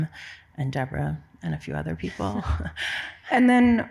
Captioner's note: laughs